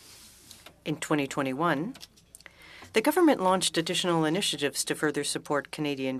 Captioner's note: speaking French